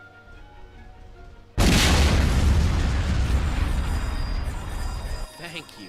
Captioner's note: booooooooom!!